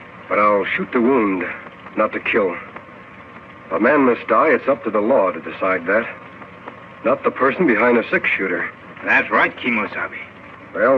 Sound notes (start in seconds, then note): none